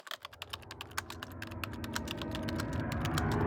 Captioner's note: typing